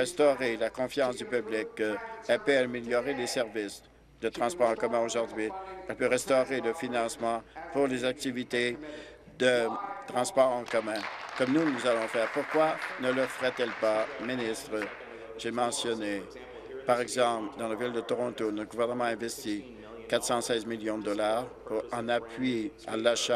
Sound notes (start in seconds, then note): 14.8 applause